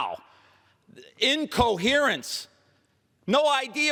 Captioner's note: angry, yelling